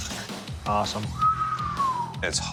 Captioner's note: whistles